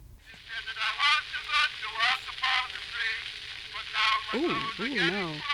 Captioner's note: grainy recording playing